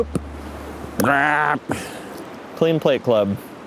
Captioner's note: disappointed vocalizing